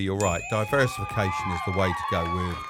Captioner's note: bell dinging; crowd cheering